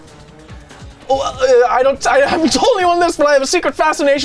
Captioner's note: stutters